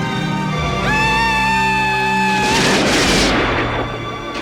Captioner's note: gunfire; loud cry